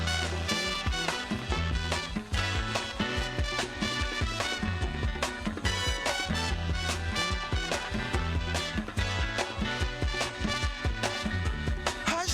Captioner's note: applause u